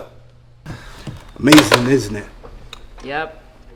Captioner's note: phone receiver thuds